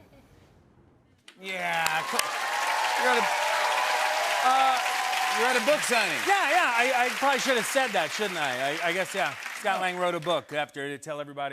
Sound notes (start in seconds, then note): 1.4 cheering and applause